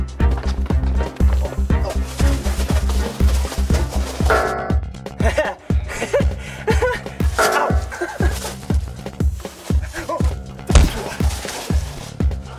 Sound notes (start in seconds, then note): 1.8 rocks rustling; 4.3 bonk!; 5.1 laughter; 7.4 bonk